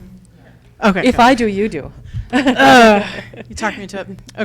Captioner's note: laughs